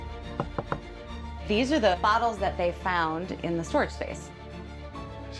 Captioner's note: knuckles tapping